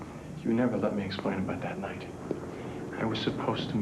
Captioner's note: none